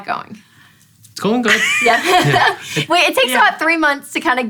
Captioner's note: laughing